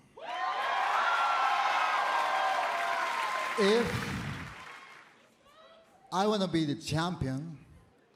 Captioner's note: cheers and applause